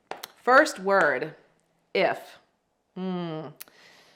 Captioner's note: hands clapping